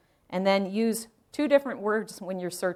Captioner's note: none